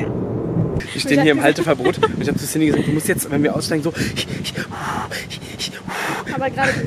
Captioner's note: gasps; laughing